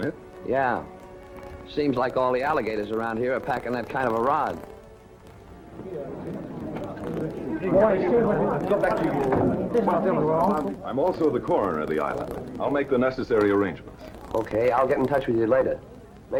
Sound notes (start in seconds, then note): 5.6 murmuring crowd